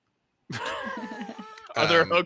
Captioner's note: laughs